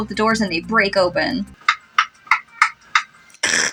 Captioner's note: slappy Footsteps; snicker